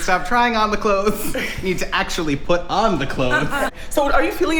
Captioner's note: laughter